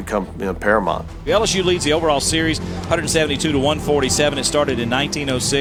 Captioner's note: voiceover